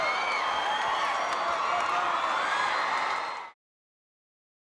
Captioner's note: audience cheering continues